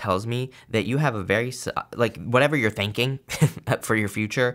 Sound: chuckles

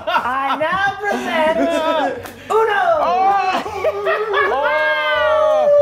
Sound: laugh

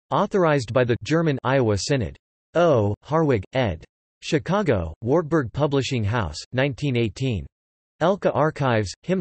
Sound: German

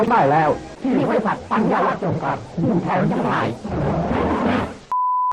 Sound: เสียงแปร่งเล็กน้อย

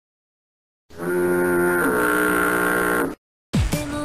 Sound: foghorn sound plays

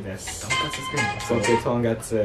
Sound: phone starts ringing

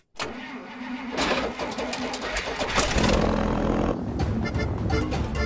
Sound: engine cranking; dance music plays

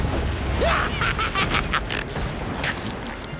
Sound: laughing

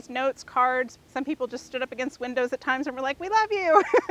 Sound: laughs

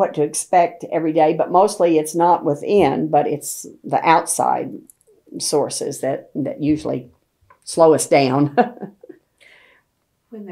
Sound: laughs

